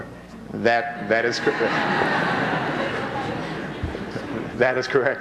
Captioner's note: laughter